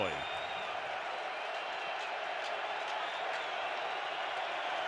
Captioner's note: crowd cheering